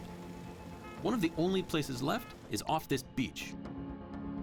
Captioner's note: beeping